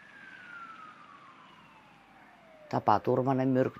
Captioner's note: sound of sirens